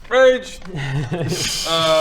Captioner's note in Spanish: risas